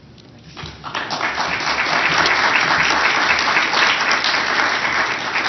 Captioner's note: applause